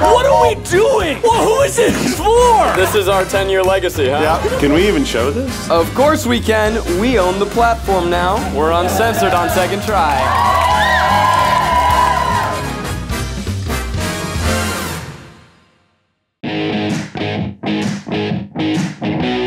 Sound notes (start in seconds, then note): 10.0 crowd cheers; 16.5 exciting music